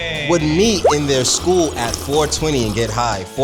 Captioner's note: slurping